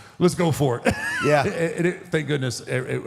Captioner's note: laughs